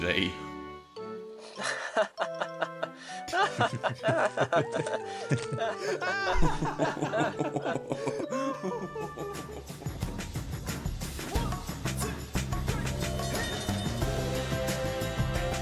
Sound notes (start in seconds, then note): 1.5 toad chuckles and duck joins in; 5.9 oliver chuckles too